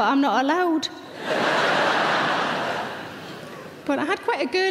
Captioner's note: audience laughing